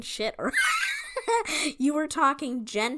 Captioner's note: laughing